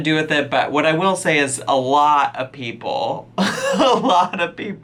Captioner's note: laughs